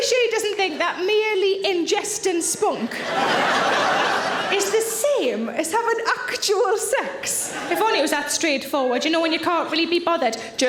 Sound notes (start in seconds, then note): 2.8 audience laughing